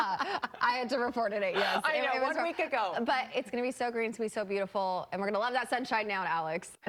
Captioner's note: laughter